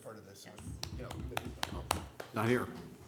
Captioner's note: clapping